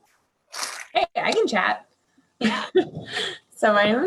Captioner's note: chuckles